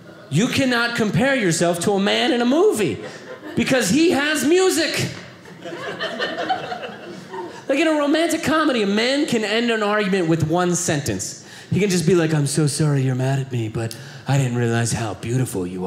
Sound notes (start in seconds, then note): 5.4 audience laughing